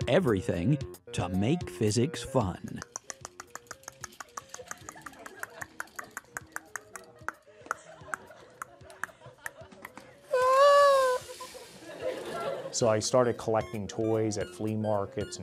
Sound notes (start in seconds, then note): 2.6 mouth clicking; 7.8 laughing